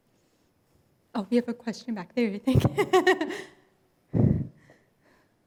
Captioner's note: laughs